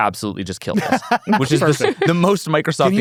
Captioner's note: laughs